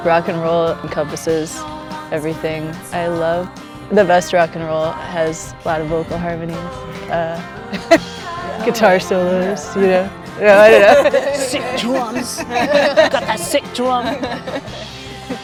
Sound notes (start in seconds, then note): 10.5 laughter